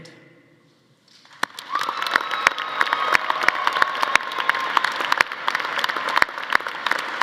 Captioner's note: audience applauding; audience cheering